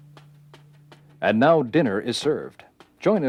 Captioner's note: voiceover